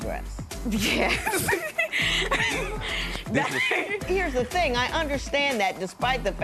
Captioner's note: chuckles